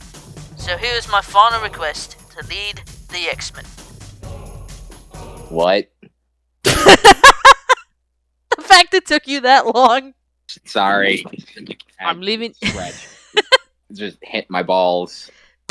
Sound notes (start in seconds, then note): 6.7 laughs; 12.6 chuckles